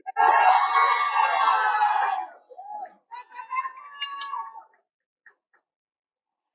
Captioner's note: cheering